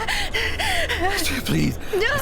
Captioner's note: gasping and screaming